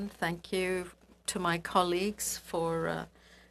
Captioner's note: speaking French